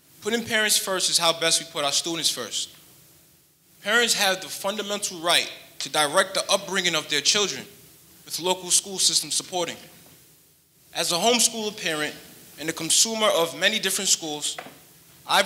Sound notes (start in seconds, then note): none